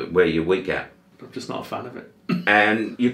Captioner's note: chuckles